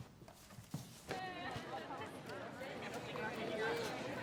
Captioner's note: indistinct chatter